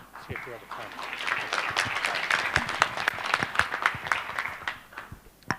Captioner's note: applause